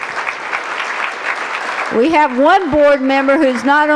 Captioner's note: applause